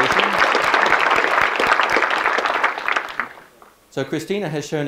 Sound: people clapping

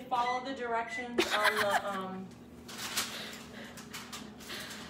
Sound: laughs

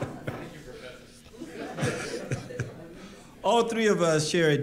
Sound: laughter

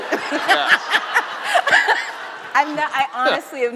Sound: laughing

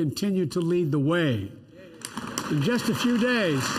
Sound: applause

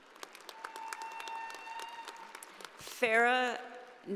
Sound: audience applauding

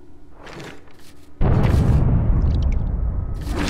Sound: boom

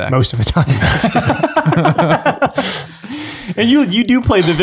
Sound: all laugh

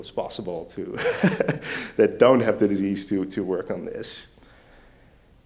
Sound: laughs

